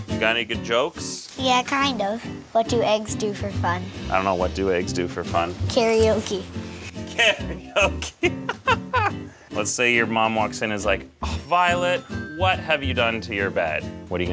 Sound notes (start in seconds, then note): 6.9 laughs